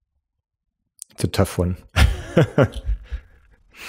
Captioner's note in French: Rires